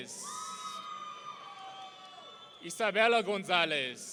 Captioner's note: audience cheering